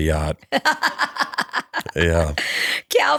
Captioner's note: laughter